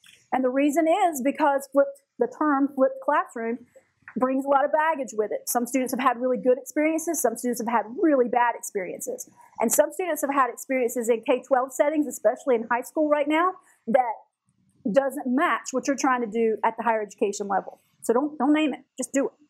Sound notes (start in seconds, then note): none